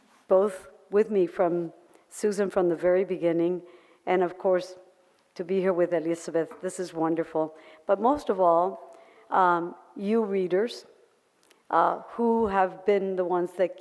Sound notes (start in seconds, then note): none